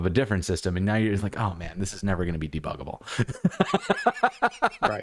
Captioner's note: laughter